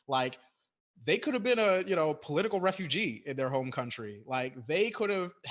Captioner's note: none